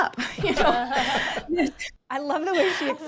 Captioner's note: all laugh